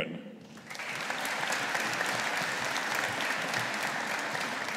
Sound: audience applauding

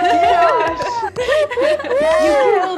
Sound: all cheering

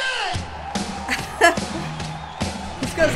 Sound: laughing

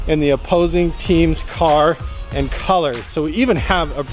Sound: none

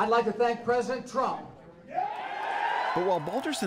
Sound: cheering and applause

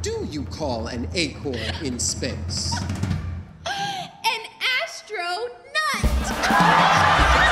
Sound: audience laughing

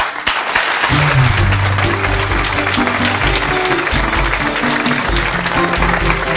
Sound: audience clapping; bright music

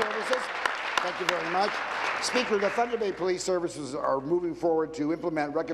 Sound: applause

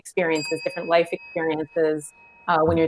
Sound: bell dings

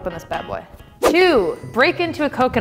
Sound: air swooshing

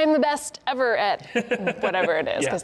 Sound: laughing

